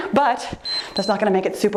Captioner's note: timer beeps